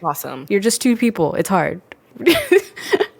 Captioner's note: laughs